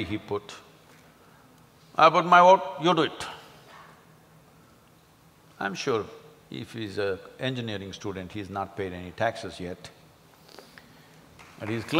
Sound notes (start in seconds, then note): 11.3 applause